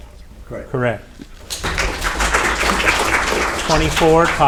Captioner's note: audience applauding